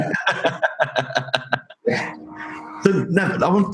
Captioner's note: both laugh